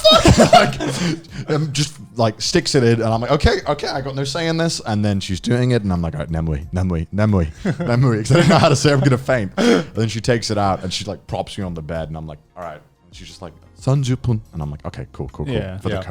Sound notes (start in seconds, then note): 0.0 laughing; 6.5 speaks in foreign language; 14.2 speaks in foreign language